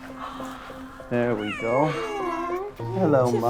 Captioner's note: Jazz meowing